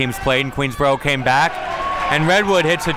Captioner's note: crowd cheers